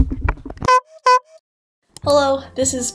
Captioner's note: clown honk